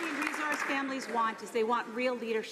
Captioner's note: some applause